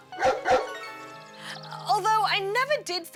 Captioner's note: barks